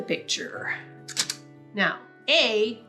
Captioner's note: camera shutter clicks